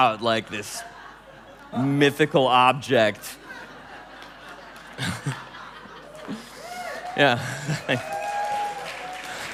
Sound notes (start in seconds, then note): 3.5 laughing